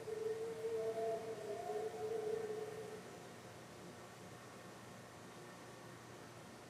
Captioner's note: two sets of howls